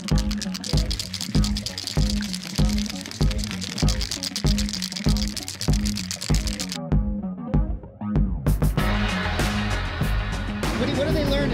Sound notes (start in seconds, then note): 2.3 paint cans rattling